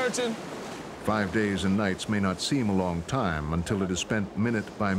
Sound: voiceover

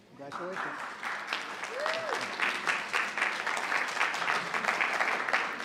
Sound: audience applauding

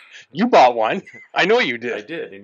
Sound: laughs

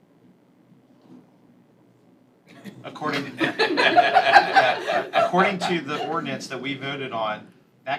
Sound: laughter

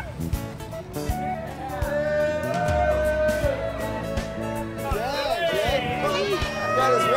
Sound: cheering

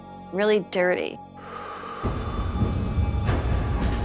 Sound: exhale

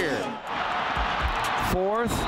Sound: crowd chanting

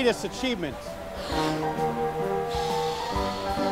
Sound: blowing

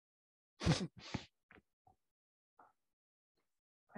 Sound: laughs

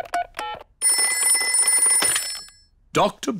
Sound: ringing

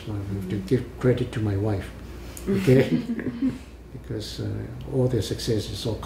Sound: all laugh

